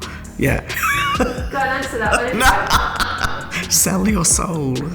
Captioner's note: laughs